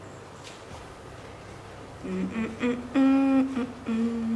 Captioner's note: humming